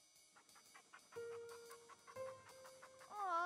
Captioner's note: dog panting